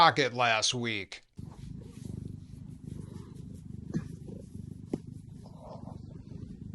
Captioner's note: socket purring